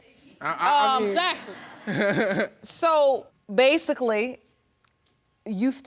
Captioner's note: laughing